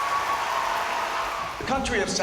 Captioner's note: cheering and applause